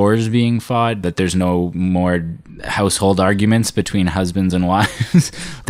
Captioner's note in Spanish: risas